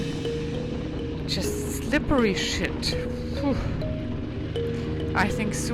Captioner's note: exhales dramatically